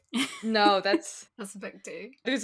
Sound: laughing

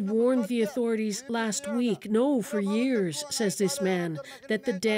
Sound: speaking alternate language

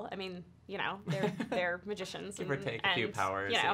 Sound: chuckles

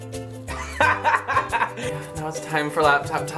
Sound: laughs

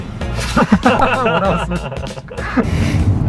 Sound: both laugh

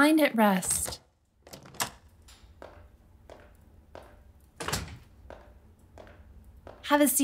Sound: a heavy wooden door closes. footsteps

